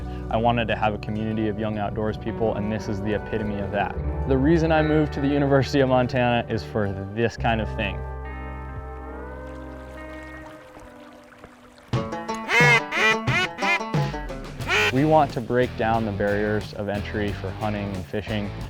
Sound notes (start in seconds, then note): 9.6 water running; 11.9 upbeat music; 12.4 duck calls